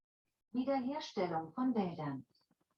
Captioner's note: machine voice reading in German